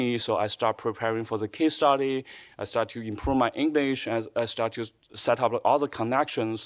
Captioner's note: none